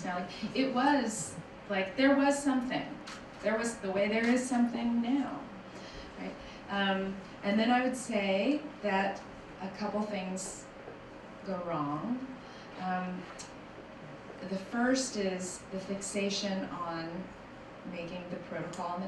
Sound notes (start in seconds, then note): none